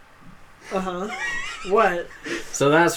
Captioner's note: laughs